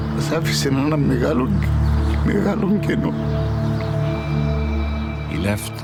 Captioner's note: father speaking in foreign language